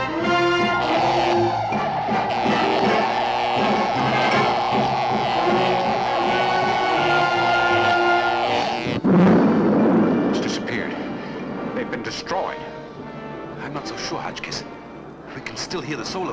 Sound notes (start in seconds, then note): 7.3 buzzing